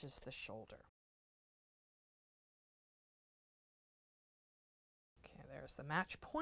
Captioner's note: no Sound Present